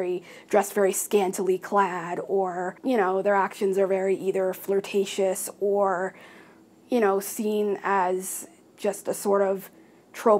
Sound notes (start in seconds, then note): none